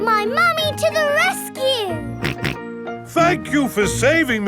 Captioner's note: snorting